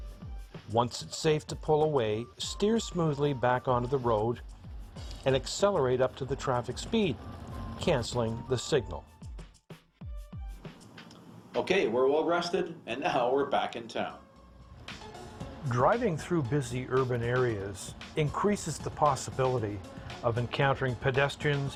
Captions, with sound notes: Once it's safe to pull away, steer smoothly back onto the road and accelerate up to the traffic speed, cancelling the signal. - Okay, we're well rested and now we're back in town. - [Voiceover] Driving through busy urban areas increases the possibility of encountering pedestrians